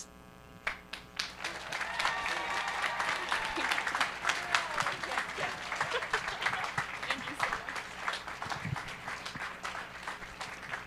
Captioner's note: applause